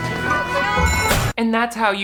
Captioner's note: bell rings